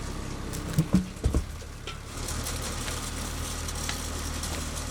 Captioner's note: wood clunking